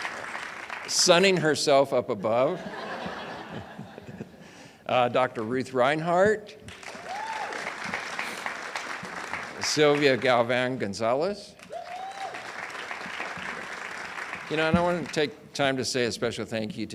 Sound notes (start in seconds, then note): 0.0 audience applauds; 4.4 audience laughs; 9.0 audience cheers and applauds; 13.4 audience cheers and applauds